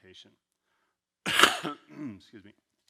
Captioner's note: coughs